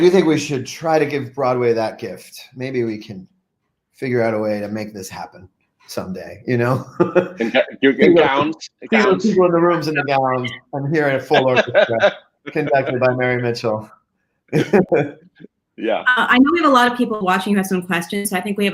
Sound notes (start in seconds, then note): 6.7 laughs; 10.9 group laughing; 14.0 laughs